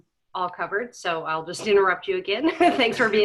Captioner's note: laughing